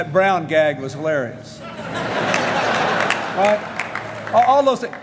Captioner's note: applause